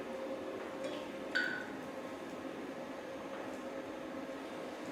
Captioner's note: beeps